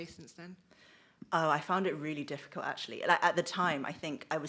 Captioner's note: zing